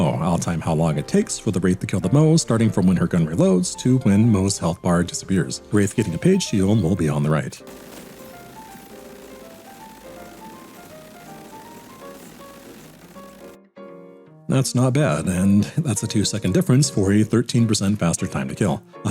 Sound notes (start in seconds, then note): 7.6 soothing sounds of sustained dakka